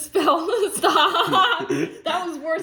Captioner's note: repeats motion, laughter